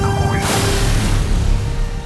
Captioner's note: explosion blast